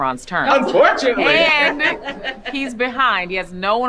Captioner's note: group laughing